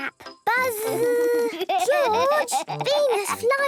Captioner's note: George laughing